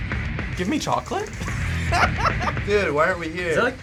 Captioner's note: heavy metal; laughs